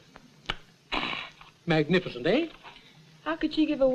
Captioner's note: smacks lips